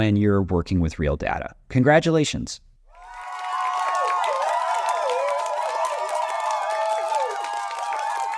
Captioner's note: applause